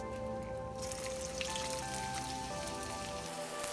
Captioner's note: oil sizzling